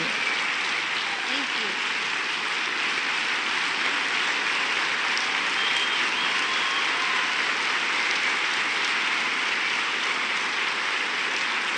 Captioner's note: applause